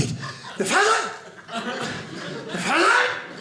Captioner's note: audience laughing